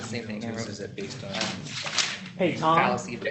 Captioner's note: indistinct chatter